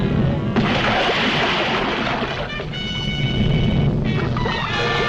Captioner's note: water splashing